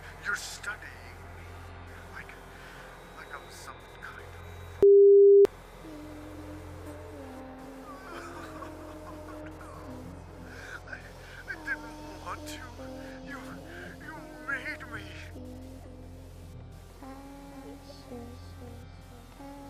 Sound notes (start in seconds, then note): 7.8 man on DVD sobs